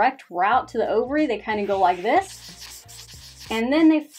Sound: marker scratching

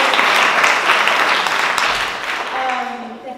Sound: applause

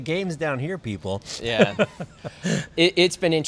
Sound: laughing

